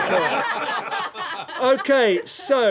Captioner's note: laughter